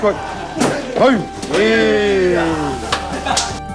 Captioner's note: laughs; brooding music